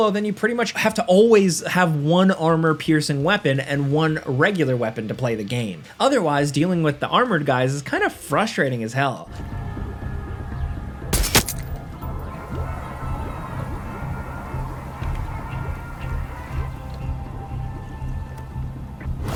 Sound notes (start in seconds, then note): 9.7 suspenseful music; 11.1 gun firing